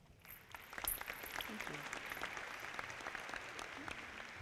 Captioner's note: audience clapping